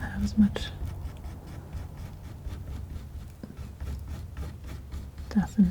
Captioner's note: scratching